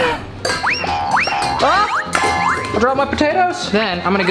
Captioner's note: bowl clangs